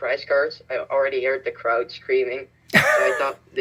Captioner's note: wheeze